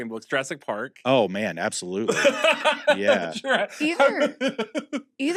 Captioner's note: laughs